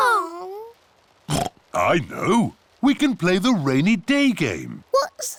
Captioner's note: oinks